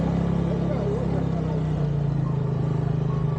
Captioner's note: engine noise